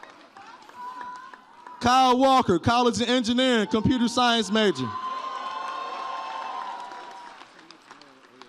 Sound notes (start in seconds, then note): 4.9 audience cheers